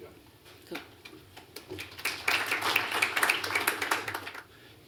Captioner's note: applause